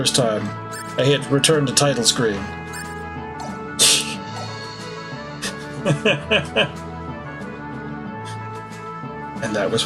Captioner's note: laughs